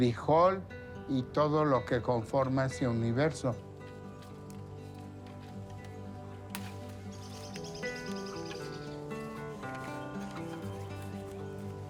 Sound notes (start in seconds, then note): 3.6 guitar music continues; 6.5 branch snapping; 7.6 birds chittering